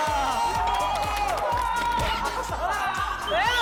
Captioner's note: applause